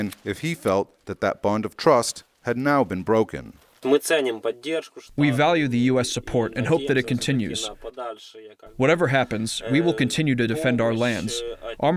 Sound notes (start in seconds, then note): 5.9 through translator